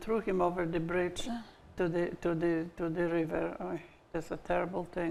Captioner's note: gasping